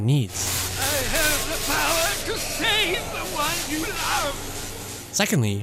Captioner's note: lightning crackles